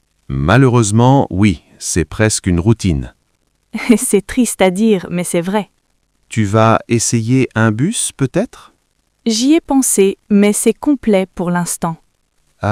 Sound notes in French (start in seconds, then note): 3.7 rire